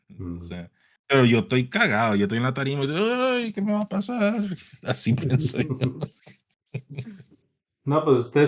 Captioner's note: laughs